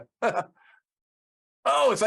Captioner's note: laughing